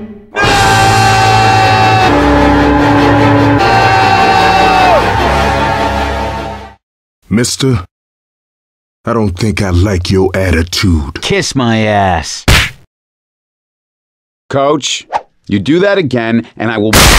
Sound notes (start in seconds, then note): 12.4 slap